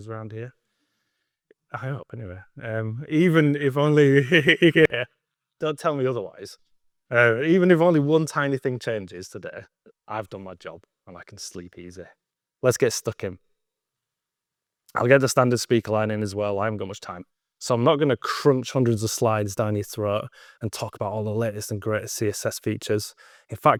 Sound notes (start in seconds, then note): 3.9 laughs